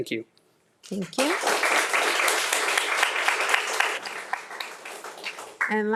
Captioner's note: audience applauding